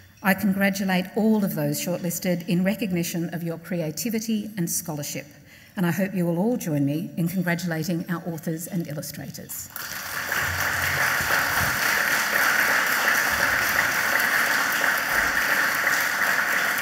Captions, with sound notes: I congratulate all of those shortlisted in recognition of your creativity and scholarship. And I hope you will all join me in congratulating our authors and illustrators. (audience applauds)